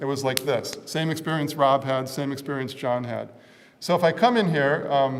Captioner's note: light slap